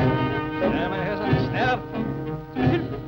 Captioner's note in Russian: говорят по-немецки